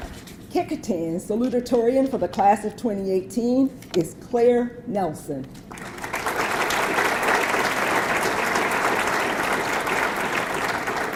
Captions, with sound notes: Kecoughtan's Salutatorian for the class of 2018 is Claire Nelson. (audience clapping)